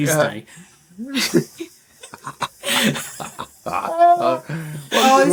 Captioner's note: laughter